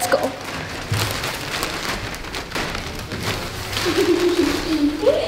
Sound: bags crinkling; laughing

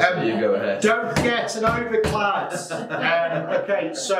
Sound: laughing

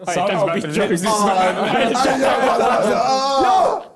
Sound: both mumbling

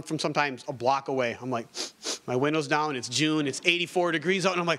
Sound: sniffs

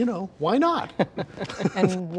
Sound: all laughing

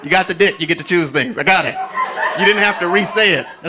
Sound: audience laughing

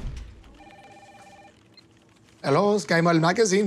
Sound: phone ringing

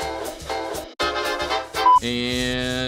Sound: beep

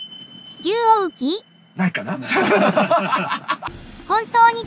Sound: laughs

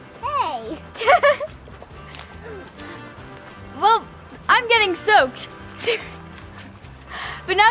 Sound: laugh

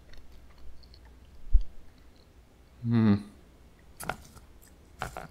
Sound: unamused sounds

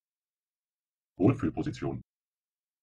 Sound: fast Pronunciation

